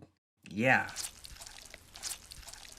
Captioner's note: chewing sounds